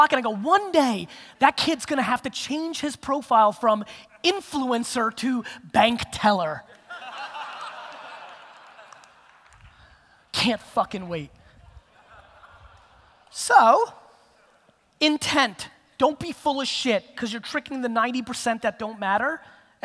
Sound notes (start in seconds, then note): 6.7 audience laughter